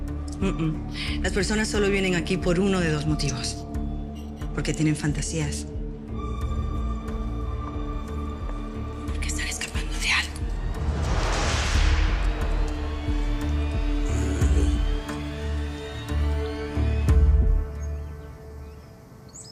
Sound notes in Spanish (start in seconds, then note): 9.0 Susurrando; 17.3 Aves gorjean